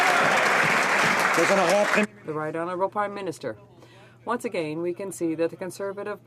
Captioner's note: some Applause